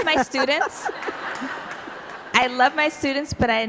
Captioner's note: audience laughing